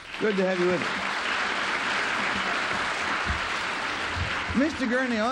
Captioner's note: applause